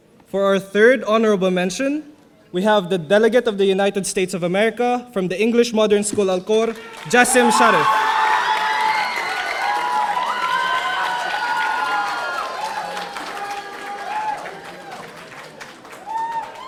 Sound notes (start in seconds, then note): 6.6 audience applauding; 6.6 audience cheering